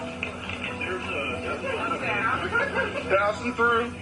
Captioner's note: speaks faintly